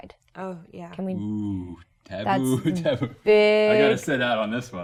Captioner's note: laughs